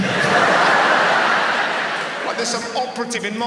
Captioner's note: audience laughs